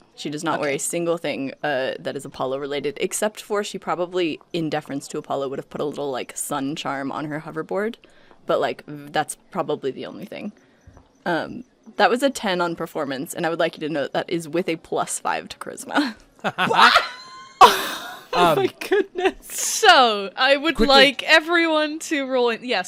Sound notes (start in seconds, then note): 16.3 laughs; 16.4 everyone loses it